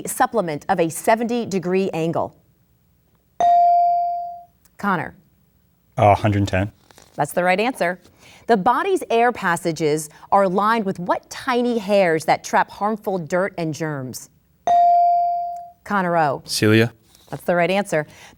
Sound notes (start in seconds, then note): 3.4 bell dings; 14.7 bell dings